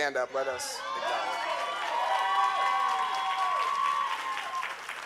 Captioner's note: audience cheering